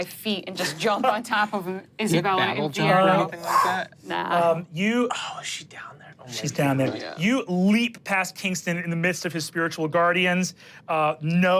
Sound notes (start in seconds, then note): 2.3 chuckles